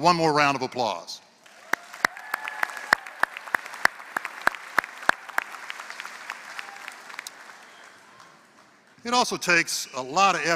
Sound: applause

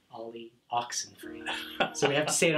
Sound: laughing

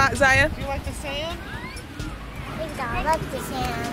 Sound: birds calling

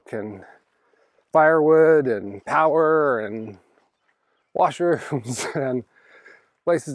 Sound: chuckles

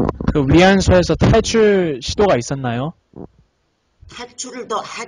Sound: speaks in foreign language

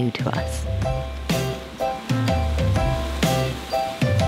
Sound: water splashing; bouncy upbeat music

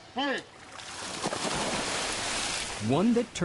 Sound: splash

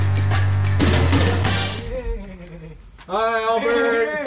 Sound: soft knocking; weird goat noise

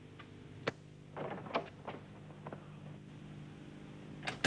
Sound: door rattles

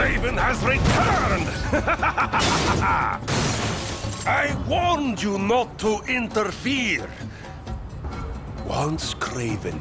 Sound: laughing

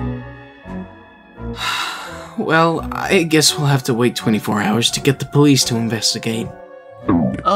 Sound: sigh

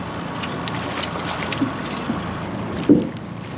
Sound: clattering; fish splashing

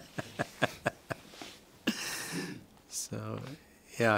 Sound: laughs

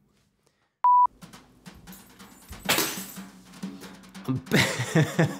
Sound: beeping; keys jangling; chuckles

